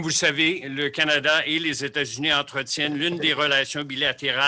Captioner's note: in French